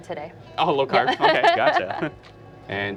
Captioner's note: laughs